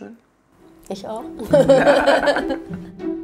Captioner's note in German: Sie lachen